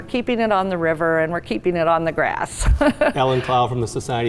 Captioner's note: laughs